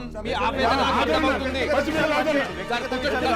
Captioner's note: arguing